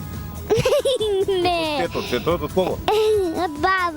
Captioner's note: giggles *again